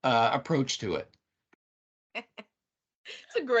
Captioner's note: laughing